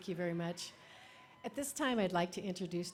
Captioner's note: applause